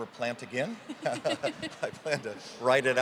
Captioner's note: both laughing